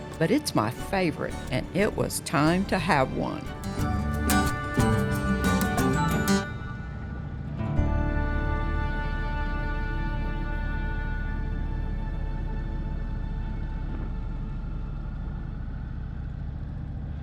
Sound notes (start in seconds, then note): 4.3 upbeat folk music; 9.9 motor rumbling